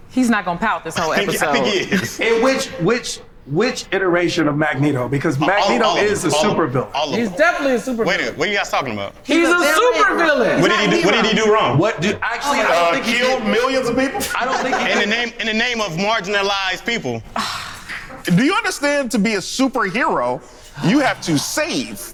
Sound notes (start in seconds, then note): 1.0 laughs; 12.6 overlapping chatter